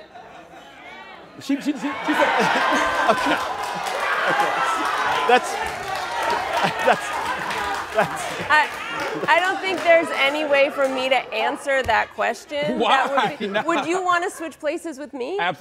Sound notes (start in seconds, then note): 2.8 audience yells